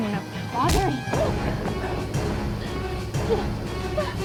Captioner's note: Jessica moaning; dramatic music